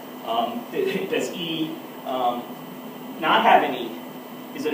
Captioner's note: laugh